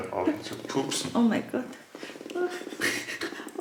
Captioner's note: laughing